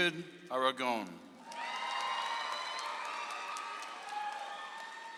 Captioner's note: audience applauds